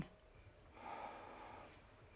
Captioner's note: sighs